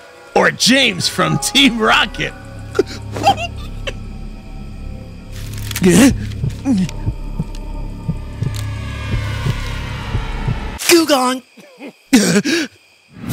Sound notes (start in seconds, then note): 5.2 leaves rustling